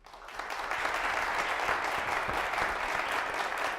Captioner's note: applause